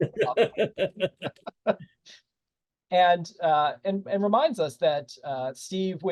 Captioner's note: laughter